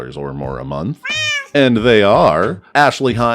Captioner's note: meow